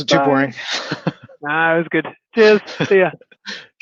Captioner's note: laughing; laughs